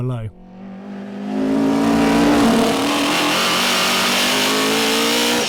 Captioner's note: car engine roaring